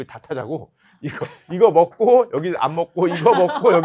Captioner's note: laughter